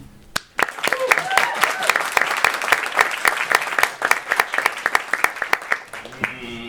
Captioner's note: applause